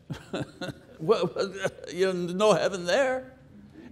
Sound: chuckles

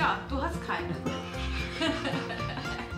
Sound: laughs

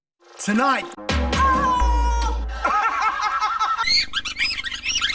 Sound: kids laughing; man laughing

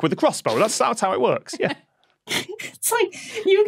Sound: cracks up

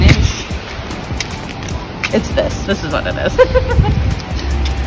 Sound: giggle

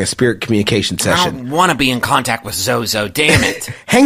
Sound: grumpily

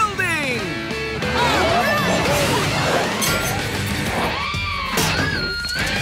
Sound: cheering

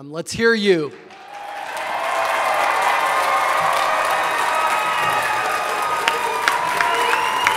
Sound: audience applauding; audience cheering

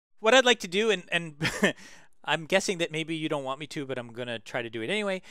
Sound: laugh

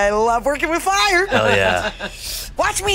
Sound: laughing

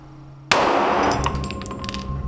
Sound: explosion sound

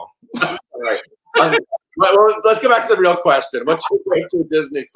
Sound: laughs

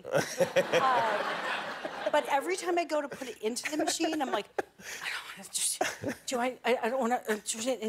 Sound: laughter

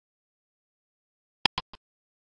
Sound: click sound

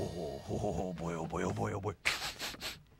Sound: sniffing

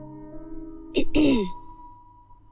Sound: clears throat

